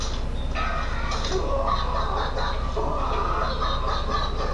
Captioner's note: dogs barking